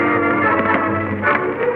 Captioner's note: gun clattering